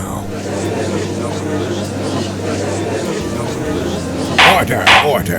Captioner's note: gallery chattering